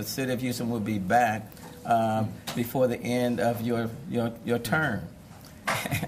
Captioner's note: laughter